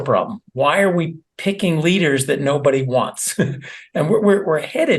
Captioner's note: laugh